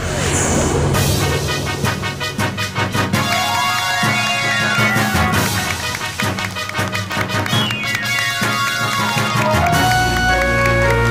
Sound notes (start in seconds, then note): 0.3 triumphant music plays; 3.2 cheering, applause